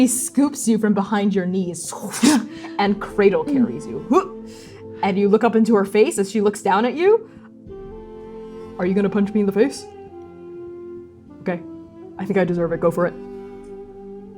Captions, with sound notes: She scoops you from behind your knees, [fwooshing] - [surprised grunting] and cradle-carries you, and cradle-carries you, - Mm! Hup! And you look up into her face as she looks down at you. Are you gonna punch me in the face? Okay. I think I deserve it. Go for it.